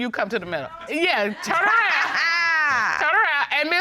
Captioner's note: laughs